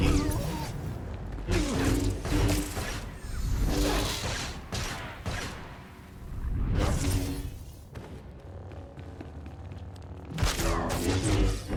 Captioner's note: gunfire